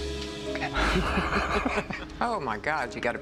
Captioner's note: laugh